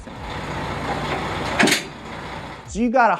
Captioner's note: mechanical clanking